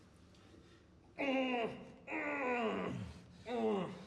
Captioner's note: groaning